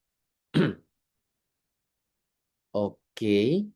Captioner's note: berdehem